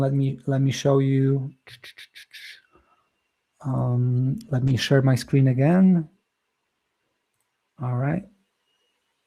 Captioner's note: mouth clicking